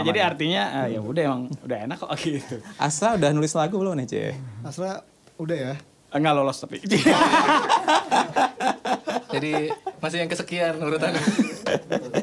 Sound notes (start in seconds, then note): 6.9 laughs